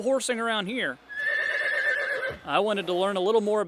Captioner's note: horse nays